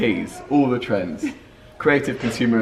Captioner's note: laughs